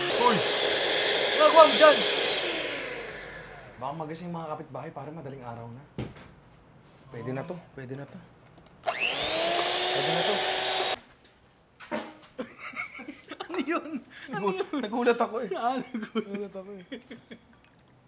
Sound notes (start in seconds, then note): 12.4 chuckles; 16.5 chuckles